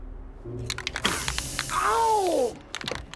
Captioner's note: can rattling